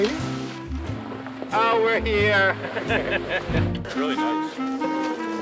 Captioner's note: laughter